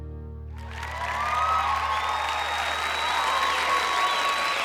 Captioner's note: crowd clapping and cheering